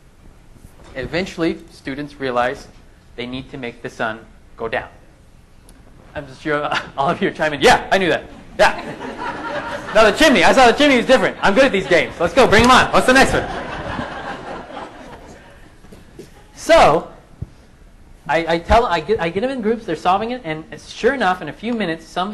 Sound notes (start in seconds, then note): 13.1 laughing